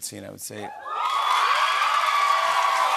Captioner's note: cheers and applause